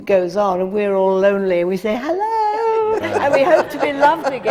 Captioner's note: laughter